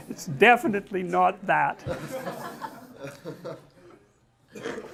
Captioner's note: smiech